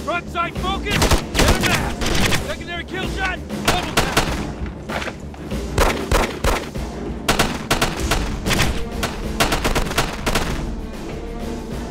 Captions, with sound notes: Frontside focus. Let 'em have it! Secondary kill shot. Let 'em have it! (guns firing) (suspenseful orchestral music)